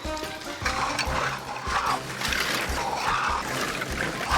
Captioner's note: scotch, plastic sloshes